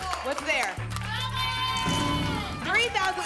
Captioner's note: cheering